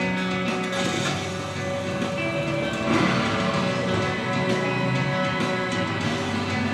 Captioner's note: motors revving